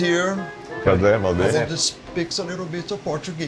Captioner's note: speaks in Portuguese